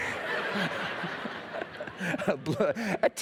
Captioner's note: laughter